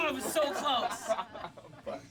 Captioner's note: laughing